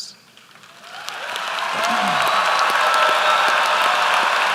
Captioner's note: applause